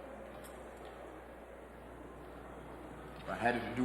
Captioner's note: people chattering